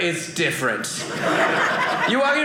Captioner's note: audience laughing